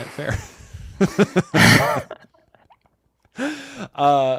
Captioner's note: laughter